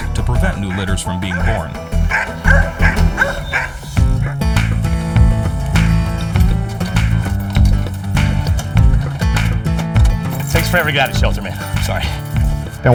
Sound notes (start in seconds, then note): 2.3 Queenie barking; 4.0 lively music